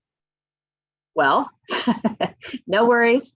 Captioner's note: laughs